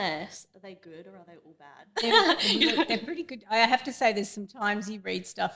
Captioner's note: laughs